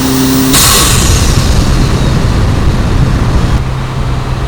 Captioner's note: annoying wind noise